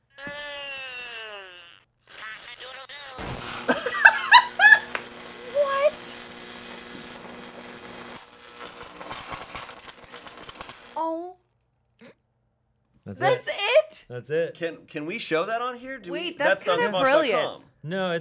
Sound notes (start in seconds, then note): 0.2 Furby vocalizing; 3.2 electric buzzing; 3.7 laughing; 6.8 electric buzzing